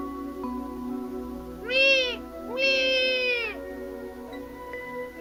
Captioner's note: baby crying